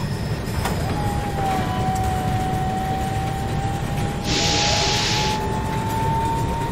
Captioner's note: overhead grabber descending and noises on rails